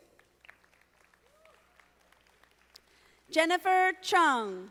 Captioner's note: audience applauding